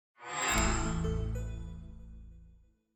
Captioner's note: chime